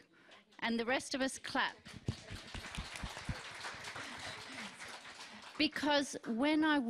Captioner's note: applause